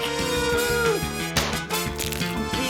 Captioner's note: groans; pop!